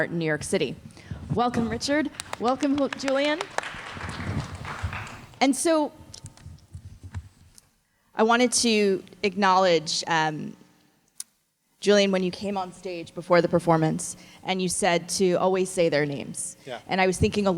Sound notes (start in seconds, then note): 4.2 audience clapping